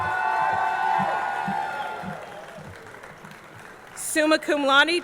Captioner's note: audience cheering; audience clapping